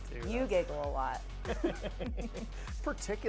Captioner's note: laughs